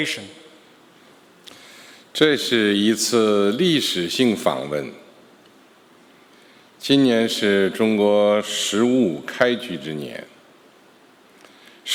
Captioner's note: speaking Mandarin Chinese